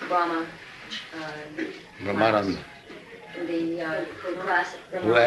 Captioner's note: none